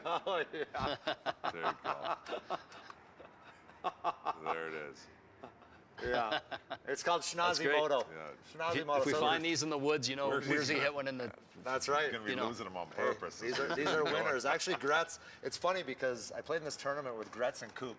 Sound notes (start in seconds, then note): 0.0 laughter